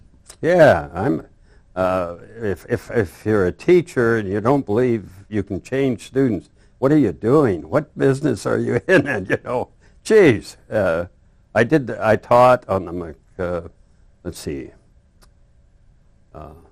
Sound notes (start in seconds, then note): 8.6 laughs